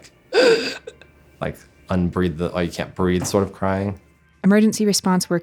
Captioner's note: gasping for air